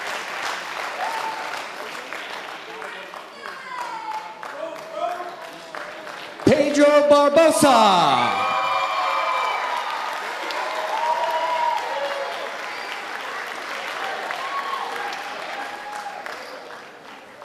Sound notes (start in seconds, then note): 8.0 audience applauding and cheering